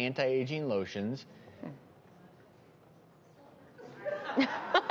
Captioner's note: laughs